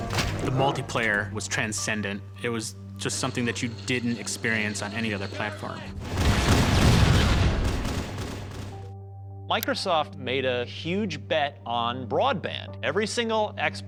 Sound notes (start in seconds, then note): 6.0 gunfire